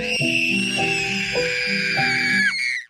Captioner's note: screaming